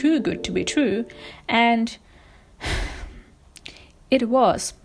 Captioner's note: sighs